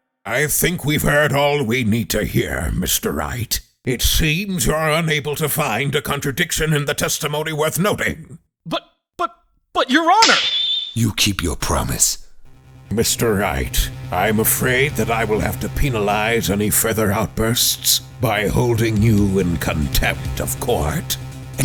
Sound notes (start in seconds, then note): 10.2 snap!